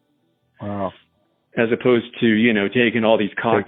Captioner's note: on phone